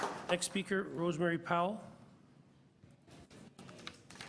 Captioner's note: applause